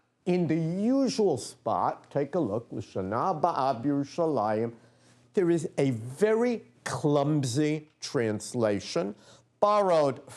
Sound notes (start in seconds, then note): 3.2 non-english speech